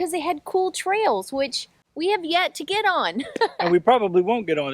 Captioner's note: laughs